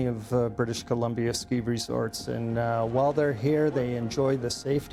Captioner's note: voiceover